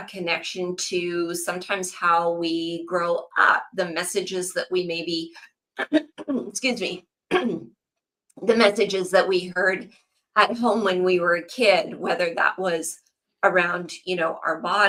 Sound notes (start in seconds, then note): 7.3 clears throat